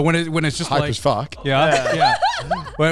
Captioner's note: men laugh